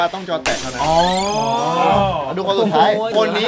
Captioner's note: Pat